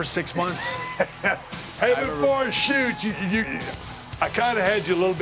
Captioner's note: laugh